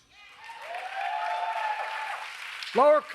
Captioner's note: applause